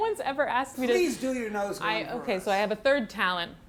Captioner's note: laughs